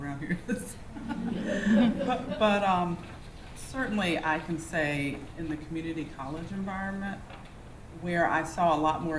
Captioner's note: laughter